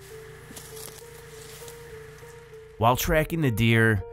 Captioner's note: leaves crunching